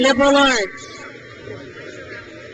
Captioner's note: crowd cheers